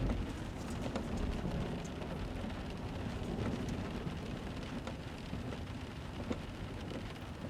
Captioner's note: rain drops tapping lightly on windshield